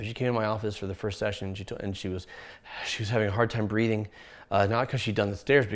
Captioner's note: breathes